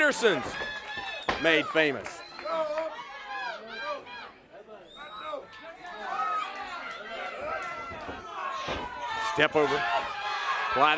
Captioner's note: crowd chatter